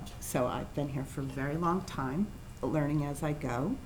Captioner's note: none